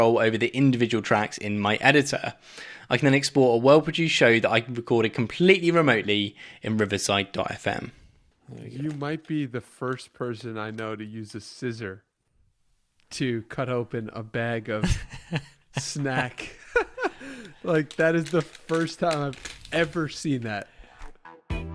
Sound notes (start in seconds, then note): 14.8 both laugh; 21.0 upbeat music